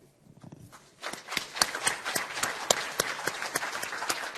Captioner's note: applause